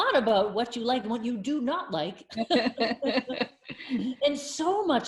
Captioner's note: both laughing